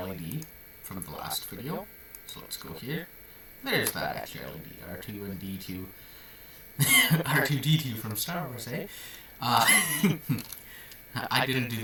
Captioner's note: laughs